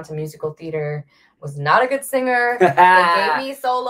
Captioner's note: laughs